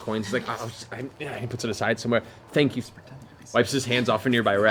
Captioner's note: muttering and stammering